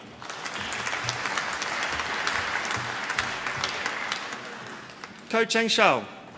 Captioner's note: applause